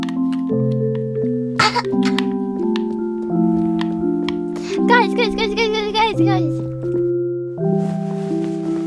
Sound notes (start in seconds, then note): 1.6 cough; 7.6 rustling fabric